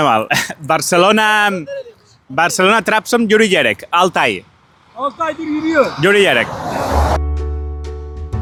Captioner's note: in Turkish